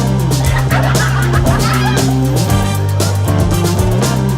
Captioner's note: laughter